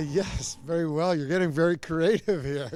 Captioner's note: laughing